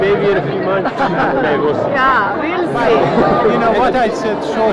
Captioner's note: laughter